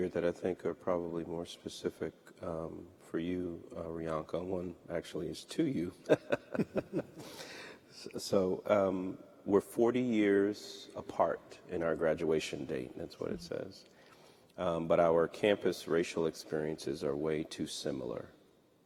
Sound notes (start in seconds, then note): 7.8 laughter